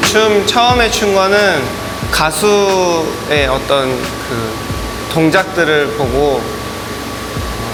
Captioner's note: on TV